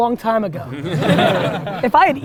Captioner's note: group laughter